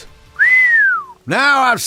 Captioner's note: whistle